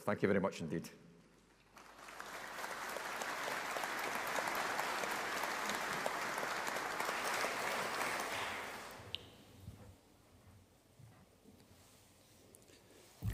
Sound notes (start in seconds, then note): 1.6 audience applauding